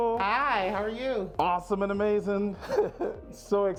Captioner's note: laughing